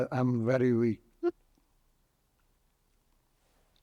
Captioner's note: pauses 6 seconds